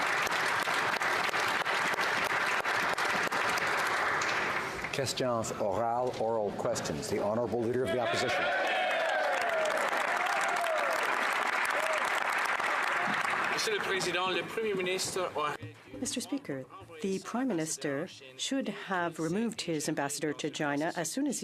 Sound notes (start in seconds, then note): 2.5 applause; 10.4 speaking French; 13.1 some Applause